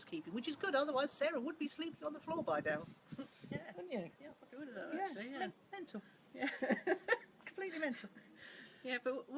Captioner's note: laughs